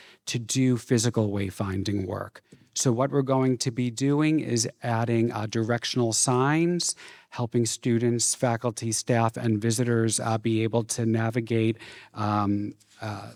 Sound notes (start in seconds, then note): none